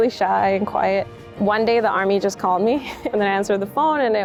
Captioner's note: chuckles